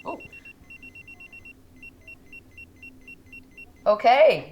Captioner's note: pager beeps